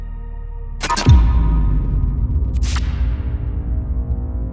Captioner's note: electrical buzzing